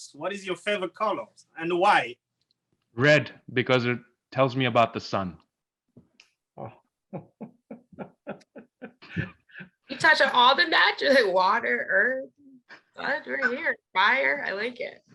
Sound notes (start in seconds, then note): 7.0 laughing